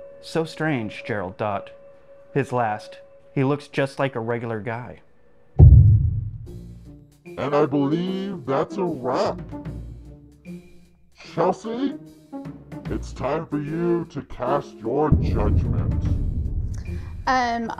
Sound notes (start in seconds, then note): 5.6 heavy object thudding; 9.5 lighthearted dramatic music; 15.6 lighthearted dramatic music